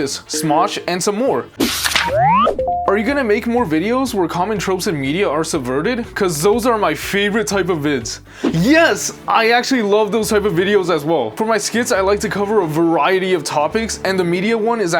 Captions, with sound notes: Smosh, and some more. (electronic beeping) Are you gonna make more videos where common tropes and media are subverted? Cause those are my favorite type of vids. Yes, I actually love those type of videos as well. For my skits, I like to cover a variety of topics and the media one is